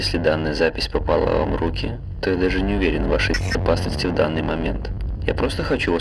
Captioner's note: static